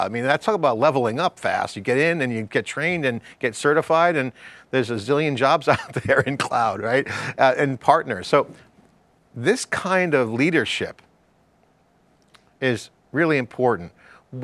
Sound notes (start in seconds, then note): 5.6 laughs